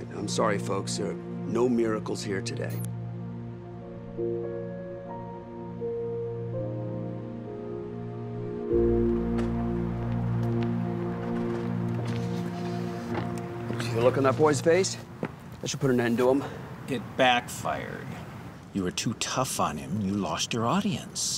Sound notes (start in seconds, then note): 10.5 car window being lowered